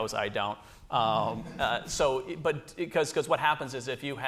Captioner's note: laughter